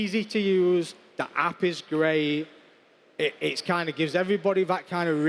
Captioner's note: none